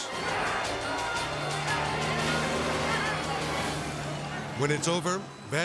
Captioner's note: people clamoring